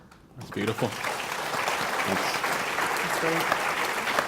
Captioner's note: applause